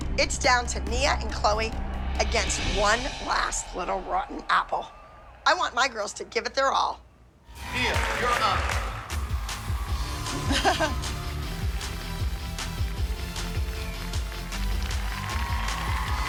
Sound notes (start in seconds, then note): 10.4 chuckles